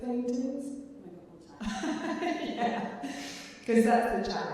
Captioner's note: laughing